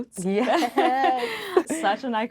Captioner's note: laughing